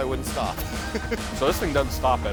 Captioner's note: chuckling